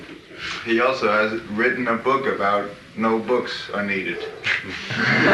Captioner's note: laughter